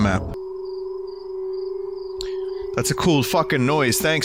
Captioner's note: shrill, discordant tone